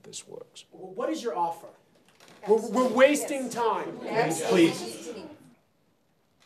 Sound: lively crowd ambience

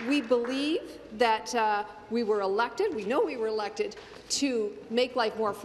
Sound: applause

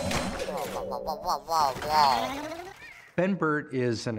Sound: wall-e shuddering

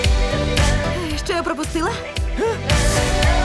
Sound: gasps

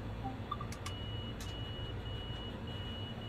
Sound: beeping

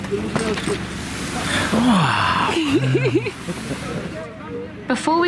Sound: giggling

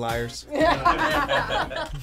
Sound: group laughs

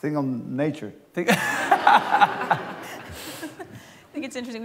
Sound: laughter

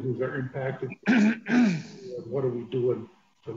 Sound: clears throat

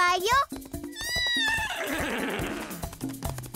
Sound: neighing

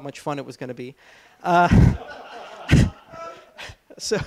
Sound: laughter

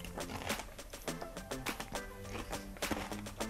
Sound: crunching

